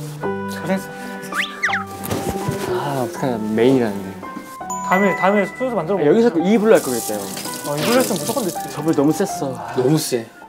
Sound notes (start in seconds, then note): 1.3 pat-pat